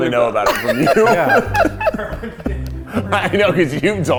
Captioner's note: laughing